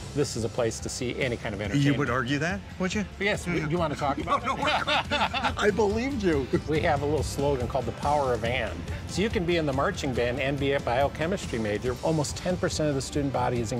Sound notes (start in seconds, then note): 3.4 laughing